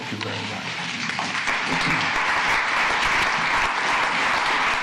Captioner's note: applause